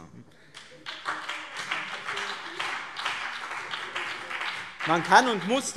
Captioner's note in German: Beifall BÜNDNIS 90/DIE GRÜNEN und CDU